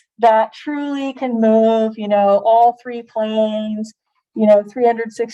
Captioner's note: none